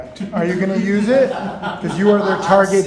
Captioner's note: laughs